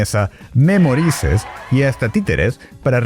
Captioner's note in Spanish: algarabía